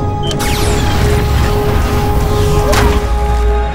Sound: disrupter fires

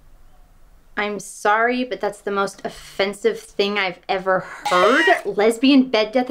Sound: cell-phone cat jingle

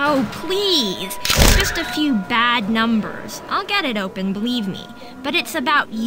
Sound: camera shutter clicks

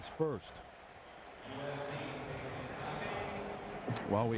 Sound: stadium announcement

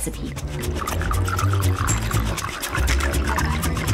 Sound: bubbling

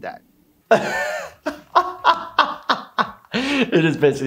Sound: laughing

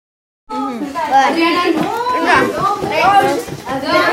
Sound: chattering

